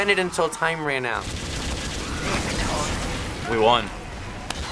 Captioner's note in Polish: strzały